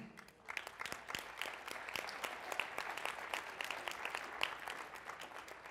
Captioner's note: applause